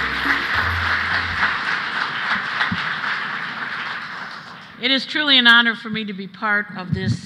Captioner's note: applause